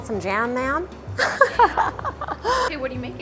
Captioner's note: laughs